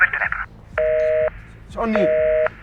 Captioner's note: phone line busy